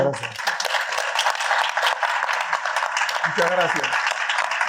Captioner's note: audience applauding